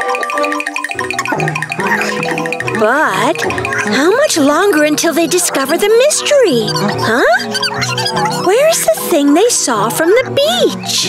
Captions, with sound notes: [panting] But, how much longer until they discover the mystery, huh? Where's thing they saw from the beach?